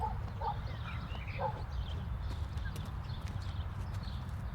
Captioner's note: birds chirping; dog barking